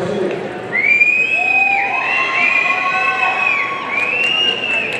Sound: audience cheering

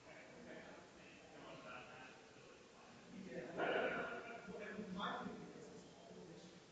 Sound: people chattering distantly continues

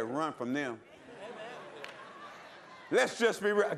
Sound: laughter

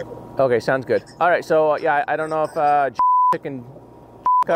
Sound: beep

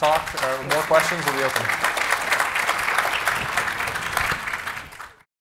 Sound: audience applauding

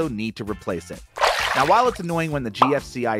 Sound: water splashing

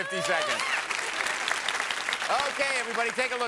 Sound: applause

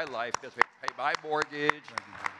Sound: audience clapping

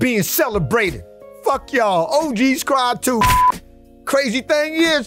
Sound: beep

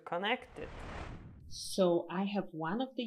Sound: sweeping swoop

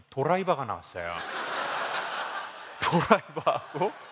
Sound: laugh

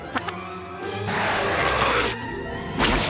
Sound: roaring

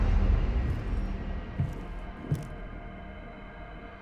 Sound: footsteps clomp

